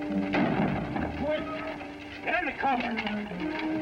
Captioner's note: gunshots